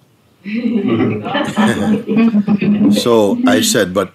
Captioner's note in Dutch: gelach